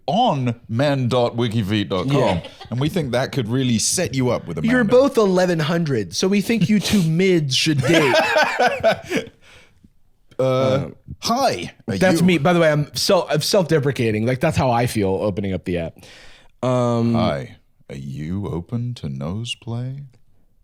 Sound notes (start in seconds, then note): 7.8 laughing